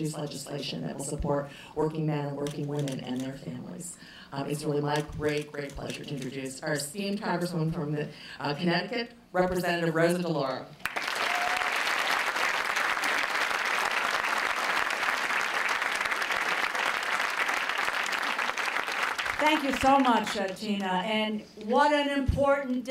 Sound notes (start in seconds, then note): 15.5 applause